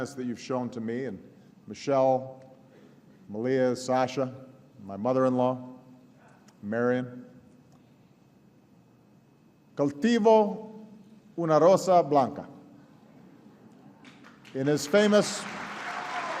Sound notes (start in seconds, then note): 14.0 applause